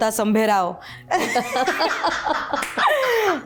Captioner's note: laughter